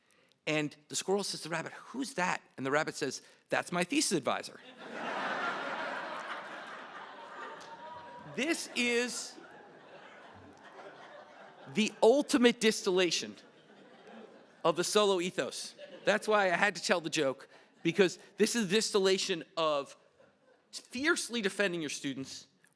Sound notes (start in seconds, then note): 4.6 laughter